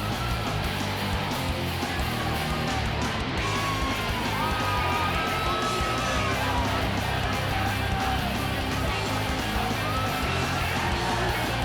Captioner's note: crowd cheering